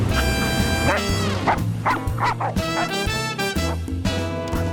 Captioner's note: dog barking